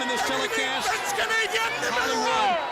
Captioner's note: crowd chatter